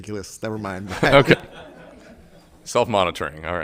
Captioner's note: group laughing